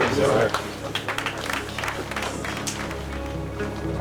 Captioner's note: applauding